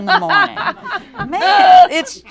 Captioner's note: laughter